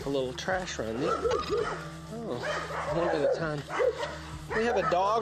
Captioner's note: dogs barking